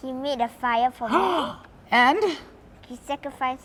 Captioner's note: gasp